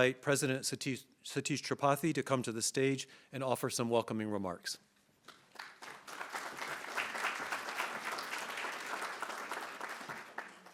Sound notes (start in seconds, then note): 5.4 attendees applauding